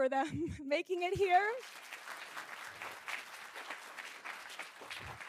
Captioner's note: audience applauding